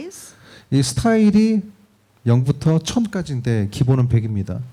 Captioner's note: speaking korean